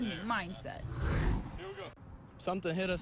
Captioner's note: air whooshes